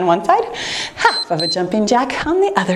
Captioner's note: timer beeps